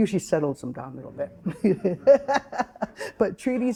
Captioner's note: chuckling